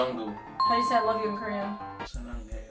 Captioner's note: bell dings; romantic music; speaks in Korean